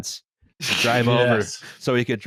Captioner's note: laughs